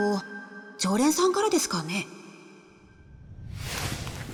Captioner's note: none